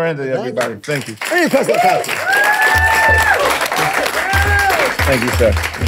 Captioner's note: audience applauding